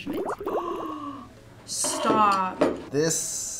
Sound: gasps

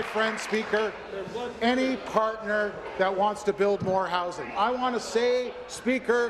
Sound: applause

